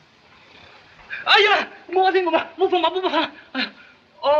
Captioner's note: speaks Chinese